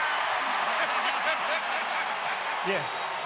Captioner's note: crowd cheers